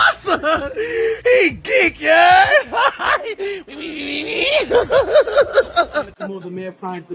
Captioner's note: laughing